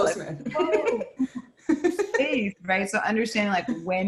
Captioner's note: laughs